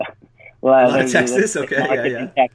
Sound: laughs

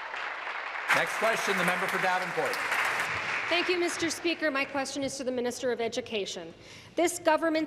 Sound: applause

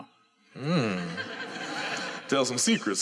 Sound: laughter

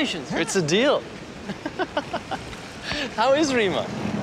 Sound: laughs

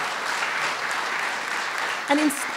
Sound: applause

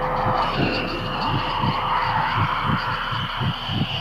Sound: alien screeching

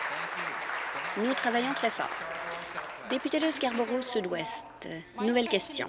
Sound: applause

